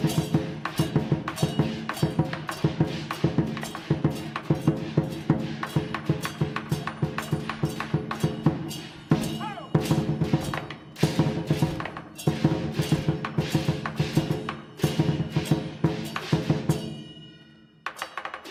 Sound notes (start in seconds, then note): 9.3 man exclaiming